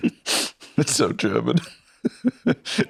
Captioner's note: laughs